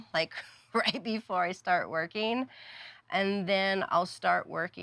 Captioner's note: laughing